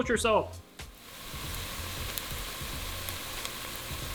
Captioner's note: onions sizzling